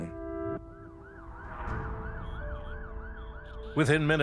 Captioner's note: siren wailing in distance